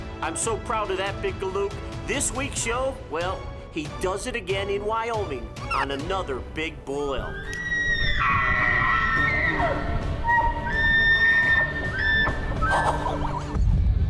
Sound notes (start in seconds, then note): 7.6 elk calls; 8.1 epic music